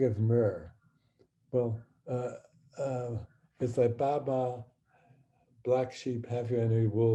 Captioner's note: speaking hebrew